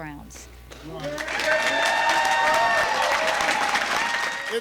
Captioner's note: applause